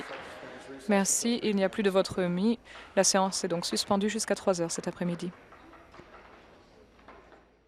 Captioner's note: applause